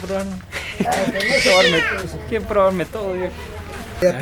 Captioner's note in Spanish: risas